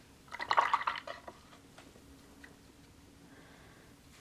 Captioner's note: water gurgles